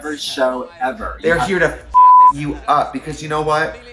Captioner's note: beep